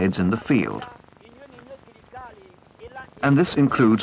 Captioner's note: indiscriminate chatter